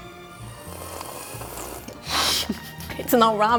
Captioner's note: slurping